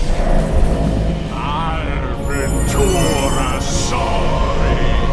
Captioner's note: speaking foreign language